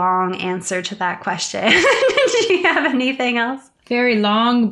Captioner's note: laughs